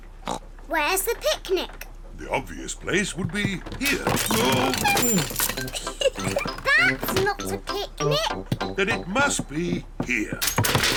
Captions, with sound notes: -(OINKS) Where's the picnic? -The obvious place would be here. -Oof! -(GIGGLES) -That's not a picnic! -Then, it must be here.